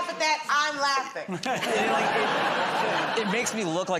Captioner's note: laughter